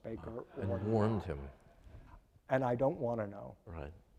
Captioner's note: audience laughing